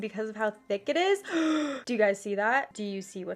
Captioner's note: gasps